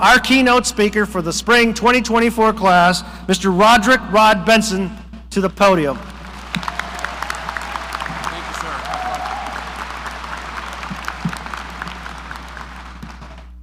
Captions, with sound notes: our keynote speaker for the spring 2024 class, Mr. Roderick "Rod" Benson to the podium. (audience applauding) - Thanks.